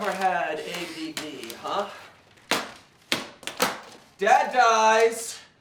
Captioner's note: paper thwacking; papers rustling